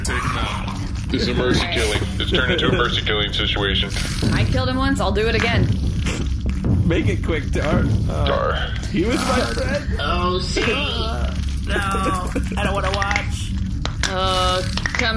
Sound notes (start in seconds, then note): 8.7 sobbing; 14.3 clicking